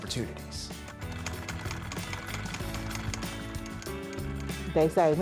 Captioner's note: sewing machine whirring